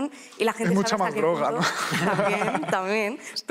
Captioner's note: laughter